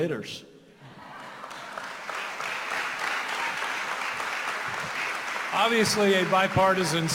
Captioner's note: applause